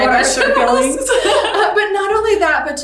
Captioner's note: laughing